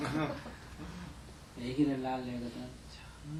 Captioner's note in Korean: 청중 웃음